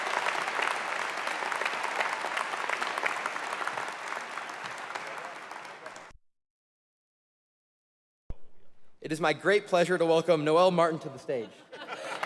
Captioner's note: applause